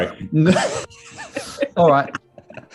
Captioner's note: laughter